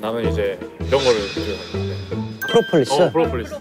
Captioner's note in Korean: 스-윽